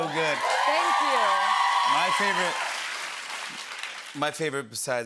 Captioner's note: cheers and applause